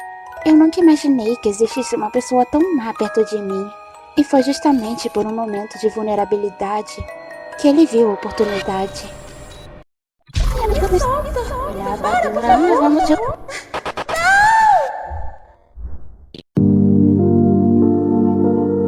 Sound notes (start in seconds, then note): 14.0 screams